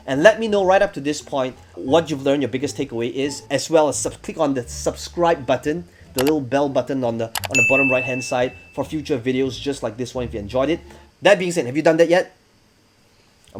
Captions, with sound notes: and let me know right up to this point what you've learned, your biggest takeaway is as well as click on the Subscribe button, (mouse clicking) the little bell button on the bottom right-hand side (bell dinging) for future videos just like this one if you enjoyed it. That being said, have you done that yet?